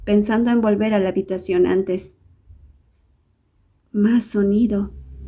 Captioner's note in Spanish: Sonido de lluvia xD